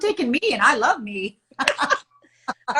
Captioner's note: both chuckle